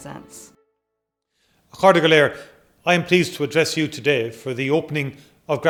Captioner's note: in Irish